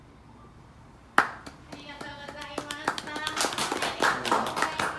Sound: applause

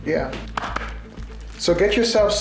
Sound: tapping

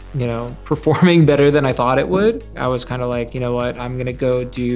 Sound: chuckles

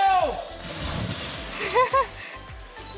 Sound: laughs

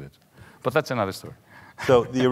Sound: chuckles

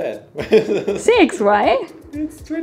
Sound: laughs

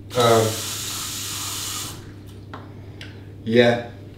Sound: water runs from tap

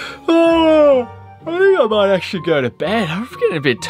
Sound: quietly; yawns

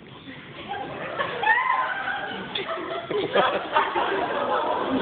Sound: laughter

